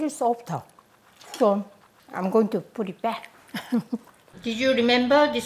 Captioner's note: laughs